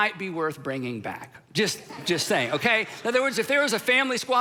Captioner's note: crowd laughing